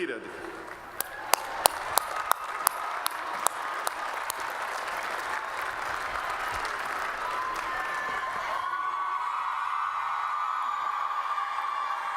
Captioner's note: applause